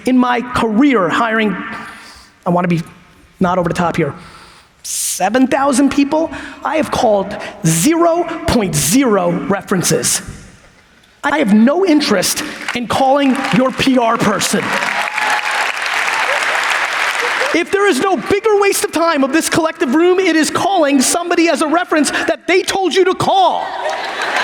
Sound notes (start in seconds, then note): 14.8 audience applauds; 23.6 audience laughs